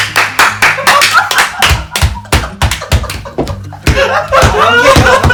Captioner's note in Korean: 웃음